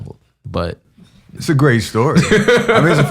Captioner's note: laughs